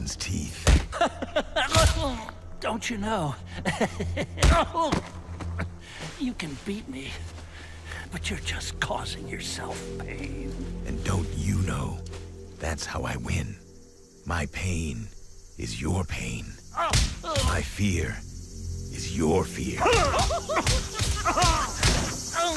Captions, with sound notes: [smack] - [laughs, grunts] Don't you know... [chuckles, groans] You can beat me, but you're just causing yourself pain. - And don't you know that's how I win. My pain is your pain. [thumping, grunting] My fear is your fear. - [grunting, laughing]